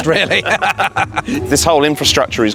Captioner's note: both laugh